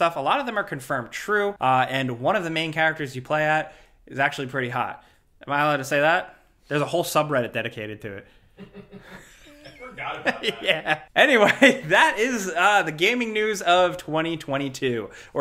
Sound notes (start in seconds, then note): 8.6 friend chuckles; 8.6 chuckles